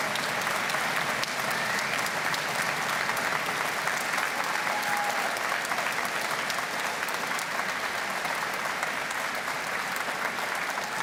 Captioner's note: applause